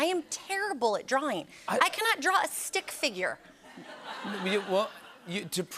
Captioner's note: laughter